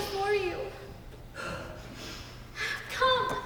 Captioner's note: sobs